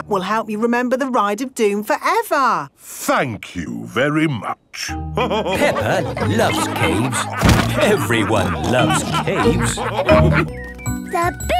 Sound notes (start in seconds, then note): 5.2 all laughing